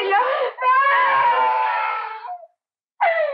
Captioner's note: Baby Crying